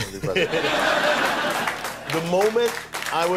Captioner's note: audience laughter